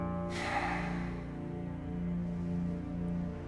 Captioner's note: bat sighs deeply